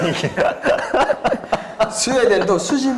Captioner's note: laughing